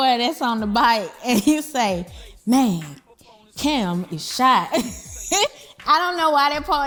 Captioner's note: laughs